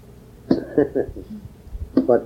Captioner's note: laughs